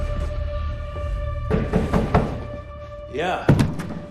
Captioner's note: knock on door